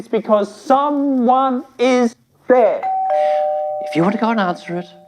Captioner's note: doorbell rings